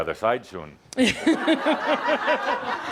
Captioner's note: laughter